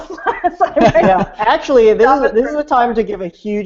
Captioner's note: laughing